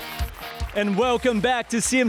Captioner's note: applause and cheers